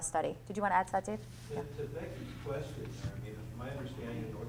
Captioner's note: voiceover